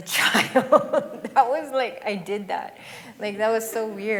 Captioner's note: laughs